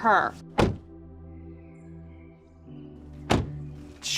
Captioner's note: car door slams; car door slams